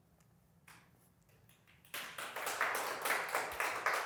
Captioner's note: applause